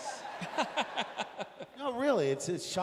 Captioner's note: laughs